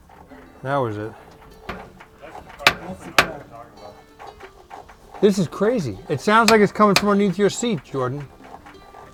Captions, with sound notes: That was it. (murmuring) This is crazy. It sounds like its coming from underneath your seat, Jordan.